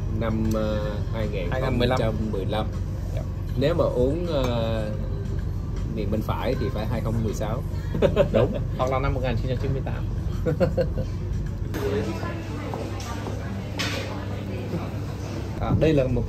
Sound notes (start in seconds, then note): 10.4 laughters